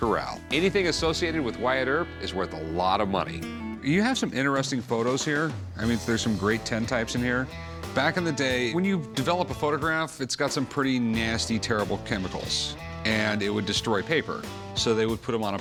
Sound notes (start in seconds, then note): none